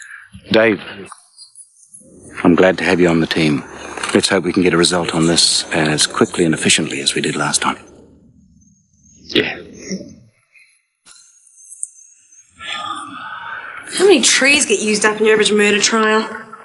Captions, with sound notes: - Dave, I'm glad to have you on the team. Let's hope we can get a result on this as quickly and efficiently as we did last time. - Yeah. (sighs) - How many trees get used up in your average murder trial?